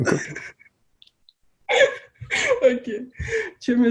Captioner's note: laughs